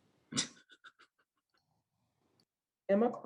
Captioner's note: laughs